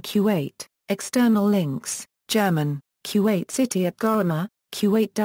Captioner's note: German